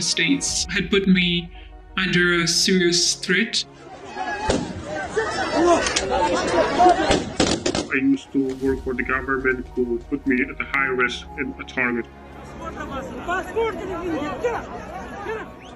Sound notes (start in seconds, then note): 3.2 gunfire blaring; 3.7 crowd shouting; 11.4 foreign language; 11.4 sad music